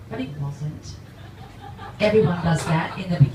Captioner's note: audience laughs